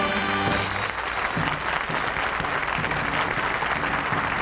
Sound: applause

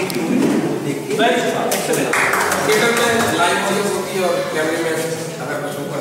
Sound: clapping

